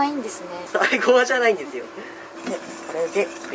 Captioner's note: laughter